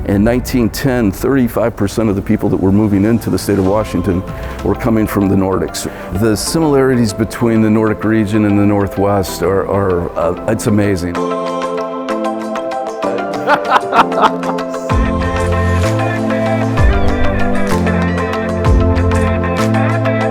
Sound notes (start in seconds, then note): 11.6 bright music; 13.2 laughing together